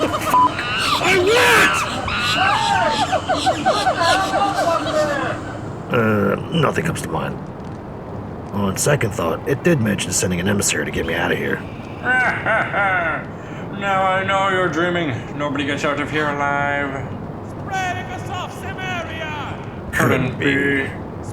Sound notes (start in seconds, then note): 2.2 distant voice